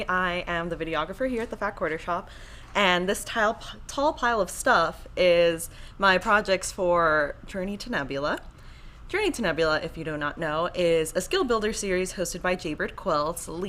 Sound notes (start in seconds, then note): none